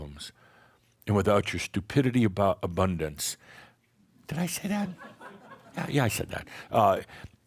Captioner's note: some chuckles